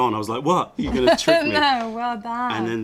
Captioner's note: laughter